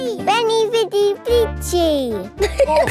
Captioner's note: all laughing